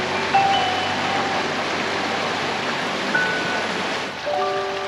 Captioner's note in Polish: Aplauz